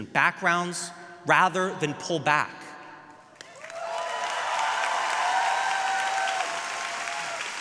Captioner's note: audience cheering